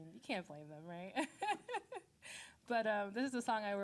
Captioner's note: laughing